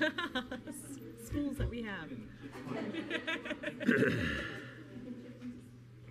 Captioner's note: laughs